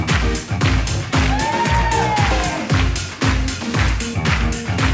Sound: audience cheers

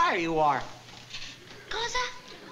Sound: italian

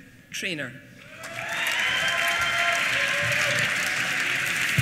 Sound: applause

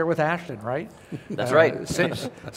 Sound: laughter

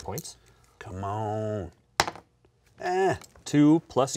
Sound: grunts

